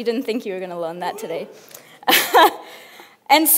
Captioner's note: laughs